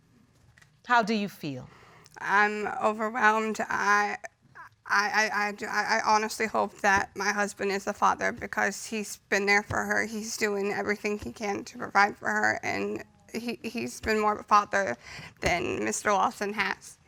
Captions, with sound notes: how do you feel? I'm overwhelmed. [stammers] I honestly hope that my husband is the father because he's been there for her, he's doing everything he can to provide for her, and he's been more of a father than Mr. Lawson has.